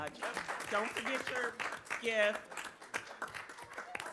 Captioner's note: audience applauding